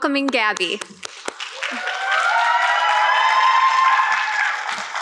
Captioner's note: audience clapping